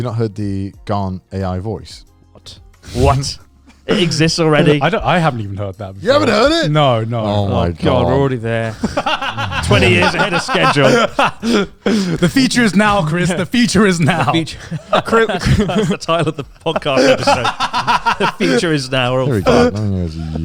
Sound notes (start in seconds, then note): 3.7 chuckling; 9.0 laughs; 15.3 chuckling; 17.3 laughs